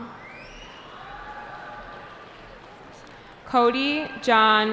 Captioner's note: cheering